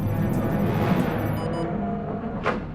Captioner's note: alarm